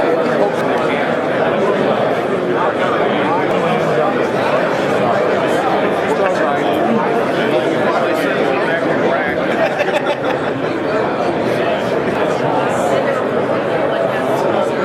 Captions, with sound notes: and everything I owe... (man laughing)